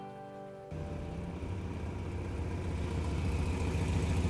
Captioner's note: engine rumbling